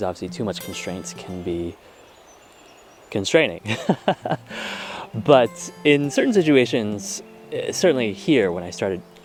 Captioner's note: laughter